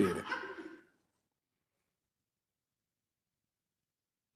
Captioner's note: attendee laughing